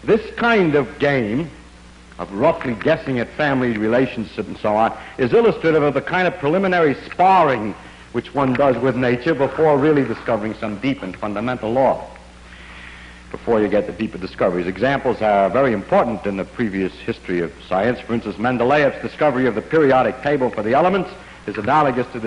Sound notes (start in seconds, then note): none